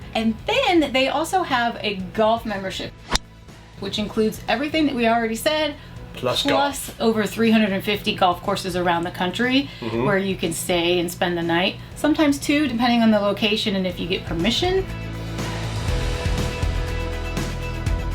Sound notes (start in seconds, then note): 3.2 golf ball pings; 14.0 upbeat music